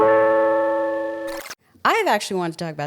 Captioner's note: gentle music; tape rewinds